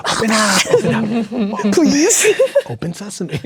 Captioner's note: players laughing